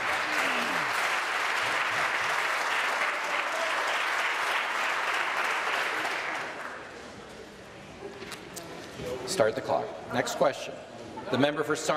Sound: applause

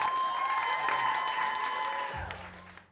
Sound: audience claps

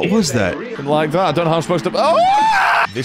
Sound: screams

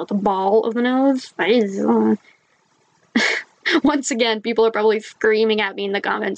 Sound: laughs

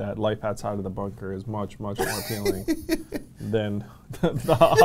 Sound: laughs

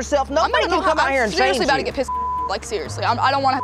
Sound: beep

